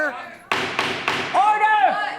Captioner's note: gavel thumping